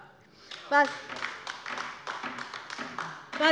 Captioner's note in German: Beifall bei der LINKEN